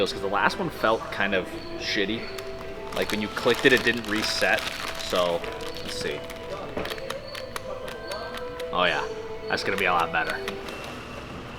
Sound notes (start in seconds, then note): 7.2 clicking